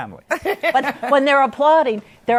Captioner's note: laughter